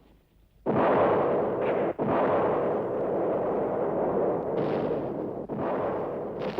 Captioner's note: explosions